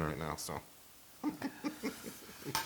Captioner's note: laugh